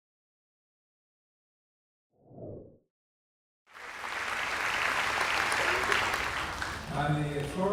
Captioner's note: background noise, applause